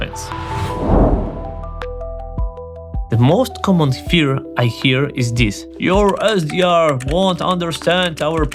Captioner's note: whooshing